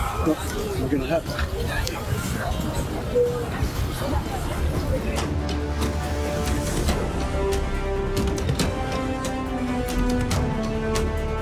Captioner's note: dramatic music; laughing